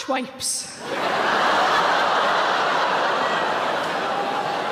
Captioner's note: audience laughing